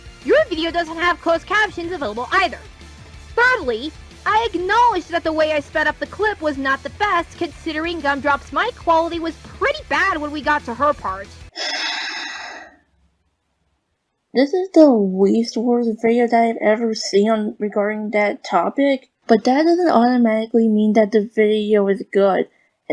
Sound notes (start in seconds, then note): 11.5 sighs